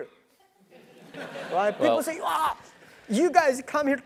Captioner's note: laugh